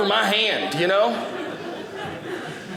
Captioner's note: audience laughing